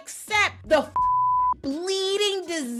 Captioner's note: beep